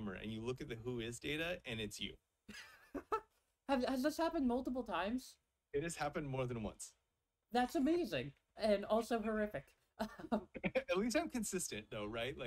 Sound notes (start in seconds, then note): 3.3 laughs